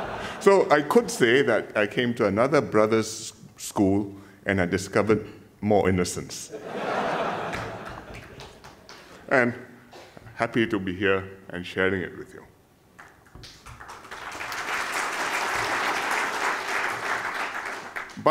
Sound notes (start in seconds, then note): 6.5 laughter; 13.0 applause